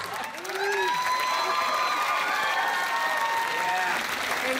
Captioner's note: cheering, applause